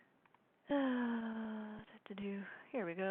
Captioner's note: sighing